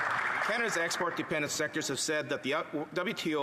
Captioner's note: applause